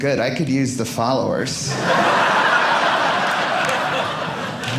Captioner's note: audience laughing